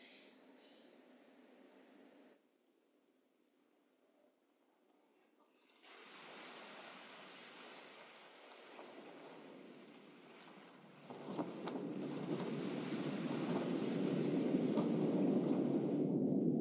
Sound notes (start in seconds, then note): 12.3 wind blowing